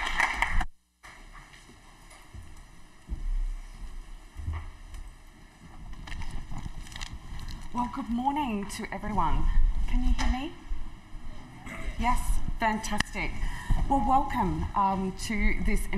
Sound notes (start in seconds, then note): 0.0 applause